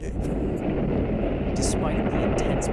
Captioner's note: explosion booming